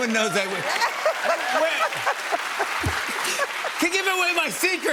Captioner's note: laughter and applause